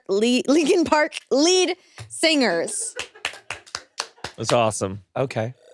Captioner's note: applauds